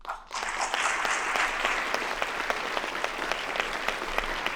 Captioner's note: audience applauding